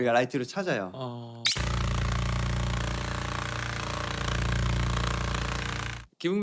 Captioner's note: sound of the Hercules beetle’s wingbeats